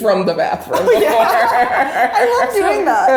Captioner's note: laughing